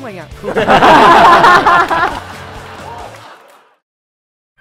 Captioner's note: laughing